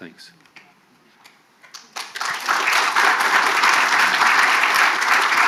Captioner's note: audience applauding